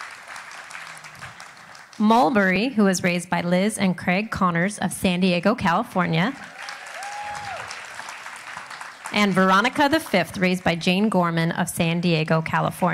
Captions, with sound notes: [Applauding] -puppy raisers of matriculating dogs, please line up to my left. While the puppy raisers gather I would